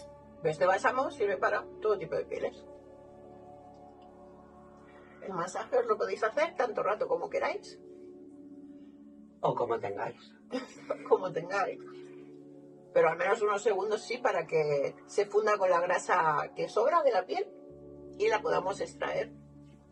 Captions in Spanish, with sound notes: Este bálsamo sirve para todo tipo de pieles.ç El masaje os lo podéis hacer tanto rato como queráis, ¡O como tengáis! (risa) ¡O cómo tengáis! Pero al menos unos segundos sí, para que se funda con la grasa que sobra de la piel, y la podemos extraer...